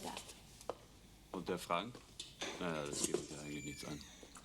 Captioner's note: speaking german